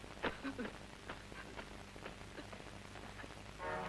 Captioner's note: weeping